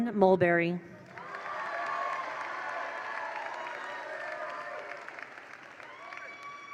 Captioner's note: attendees cheer; attendees applaud